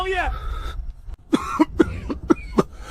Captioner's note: cough, cough, cough